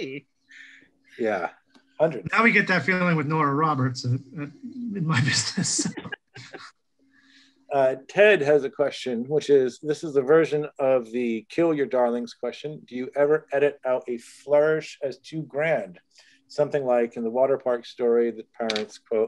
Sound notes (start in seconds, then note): 5.3 laughter